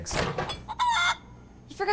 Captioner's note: chicken cluck